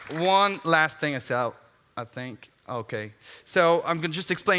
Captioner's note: applause